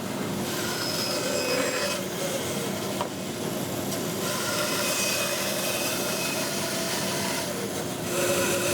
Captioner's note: saw blade continues whirring